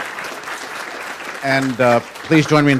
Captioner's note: applause